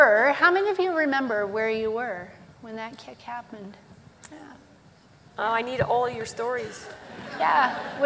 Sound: laughter

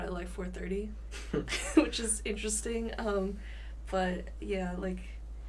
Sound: both chuckle

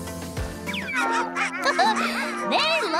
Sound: Sandy chuckles

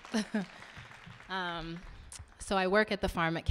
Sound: audience applauding; laughing

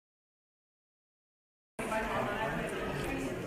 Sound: chatter

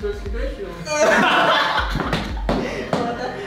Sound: team laughing

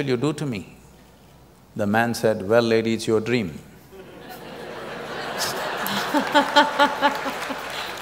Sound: laughter

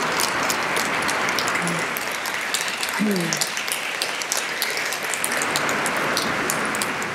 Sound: applause

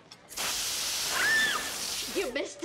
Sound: screaming

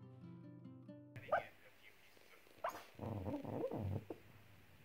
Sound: dog barking

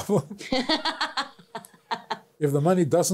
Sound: both laughs

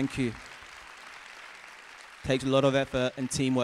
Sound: audience applause

